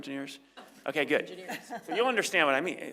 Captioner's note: laugh